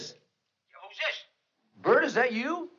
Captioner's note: on phone